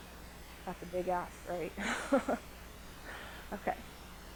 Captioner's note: laughs